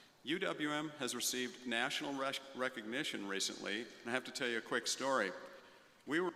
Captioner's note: none